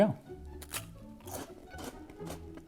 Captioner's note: chomp